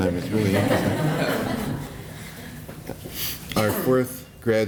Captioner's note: laughter